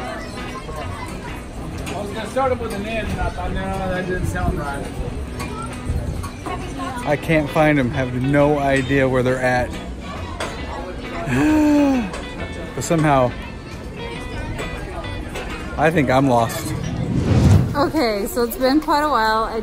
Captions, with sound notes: - I was gonna start him with him in, and I thought, "no, that didn't sound right." - I can't find 'em. Have no idea where they're at. (sighing) But somehow, I think I'm lost. - Okay, so it's been quite a while,